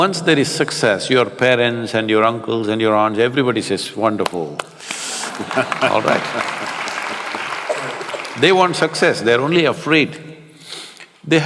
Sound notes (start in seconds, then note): 7.3 applause